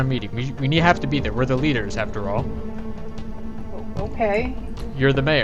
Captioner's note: stompy